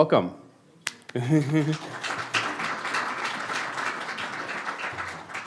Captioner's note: applause